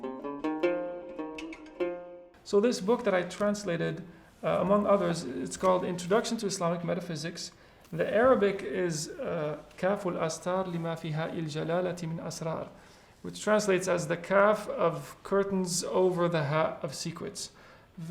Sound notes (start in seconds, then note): 8.7 speaks Arabic